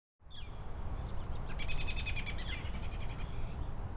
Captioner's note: birds chirping